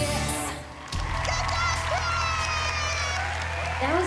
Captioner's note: cheering and applause